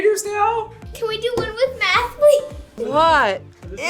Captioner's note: laughs